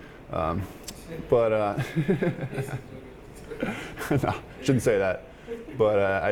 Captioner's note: laughing